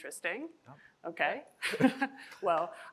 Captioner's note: chuckles